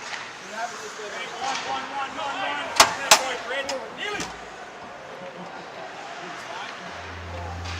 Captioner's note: sounds of people playing hockey